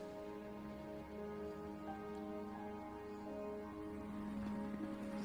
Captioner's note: gentle somber music; helicopter fluttering